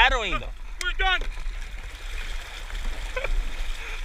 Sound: laughing

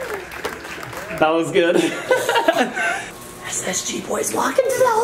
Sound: audience cheering and applauding; laughs

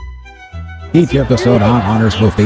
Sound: voiceover

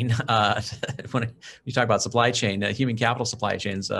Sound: chuckles

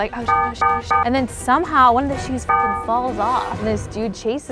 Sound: beeps; beeps

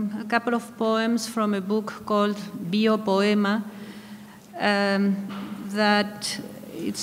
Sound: speaking in a foreign language

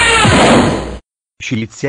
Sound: crash!; zoom!

